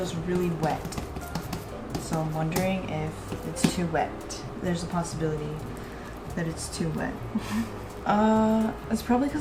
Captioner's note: laughs